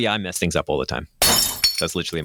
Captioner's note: glass shattering